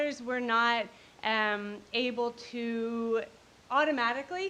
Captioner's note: none